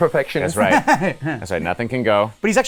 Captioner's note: laughs